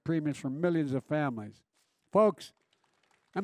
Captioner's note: applause